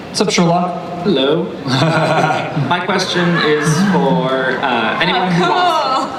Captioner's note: voiceover